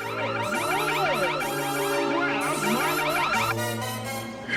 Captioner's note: alarm blaring